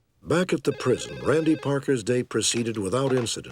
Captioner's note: telephone ringing